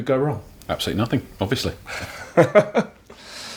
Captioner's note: laughs